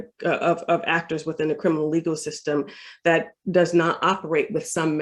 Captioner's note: none